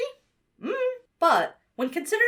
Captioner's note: hums nonchalantly